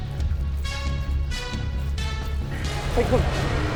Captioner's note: dragon growls; dramatic music